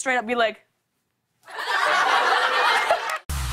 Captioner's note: laughter and applause